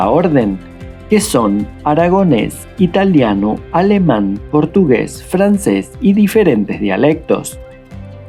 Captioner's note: Spanish